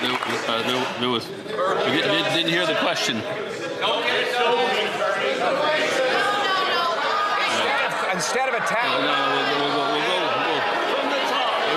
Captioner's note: some Applause